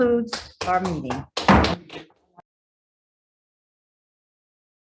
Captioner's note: claps; gavel bangs